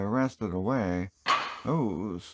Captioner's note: clank